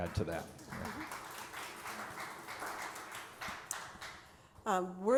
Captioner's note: applause